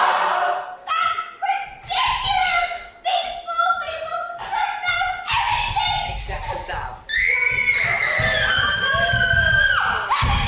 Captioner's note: brat screams